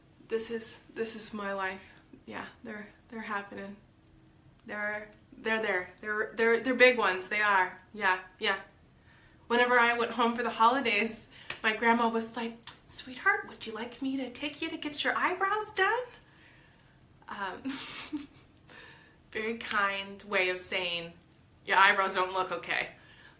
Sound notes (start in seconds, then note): 17.6 laughs